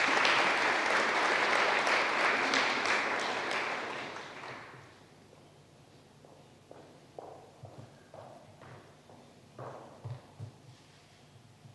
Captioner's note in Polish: oklaski